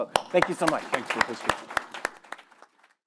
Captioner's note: all applaud